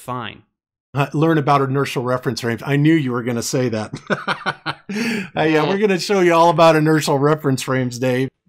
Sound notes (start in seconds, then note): 3.9 smug laughter